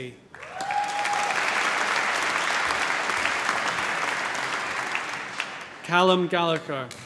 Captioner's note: cheering, applause